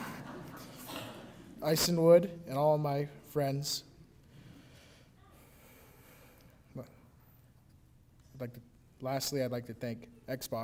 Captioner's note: laughter